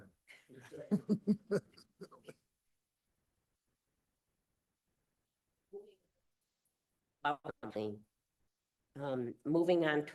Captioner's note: laughter